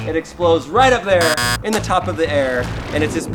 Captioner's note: buzzer